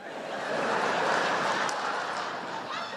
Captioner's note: laughter